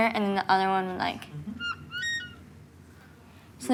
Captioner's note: marker squeaks